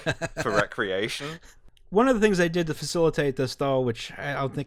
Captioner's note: laughter